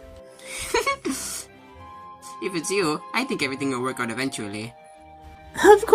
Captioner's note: chuckles